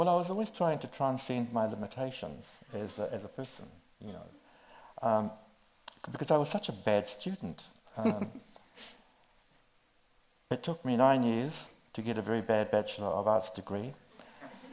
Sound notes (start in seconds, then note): 7.9 chuckles